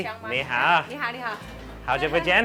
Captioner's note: speaks in a foreign language; woman speaks in a foreign language; speaks in a foreign language